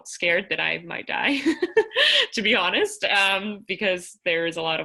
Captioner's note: laughter